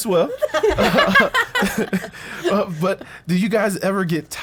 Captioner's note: group laughs